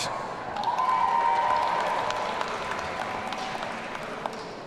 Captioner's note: audience cheering